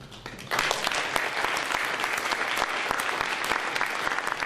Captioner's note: applause